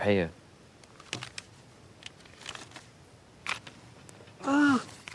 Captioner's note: cash crinkling